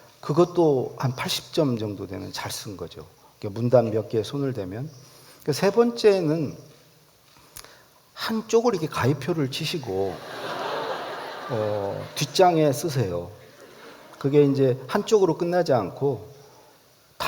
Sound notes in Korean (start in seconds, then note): 10.1 웃음